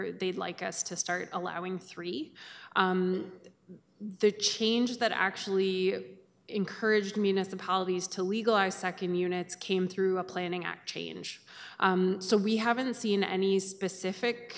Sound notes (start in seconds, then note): none